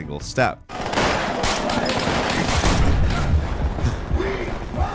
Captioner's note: guns firing; speaking foreign language